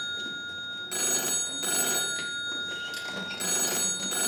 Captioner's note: phone continues ringing